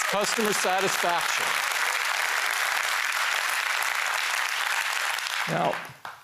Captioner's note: applause